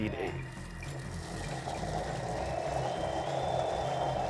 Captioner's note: Thermomix whirring